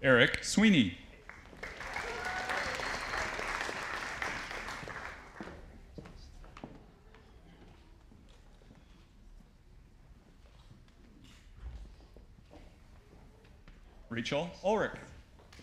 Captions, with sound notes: Eric Sweeney. (audience applauding) Rachel Ullrich.